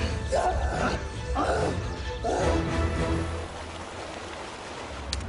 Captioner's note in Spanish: Quejidos